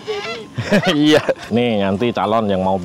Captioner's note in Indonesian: Ketawa